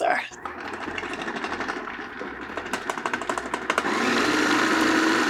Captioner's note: blender whirring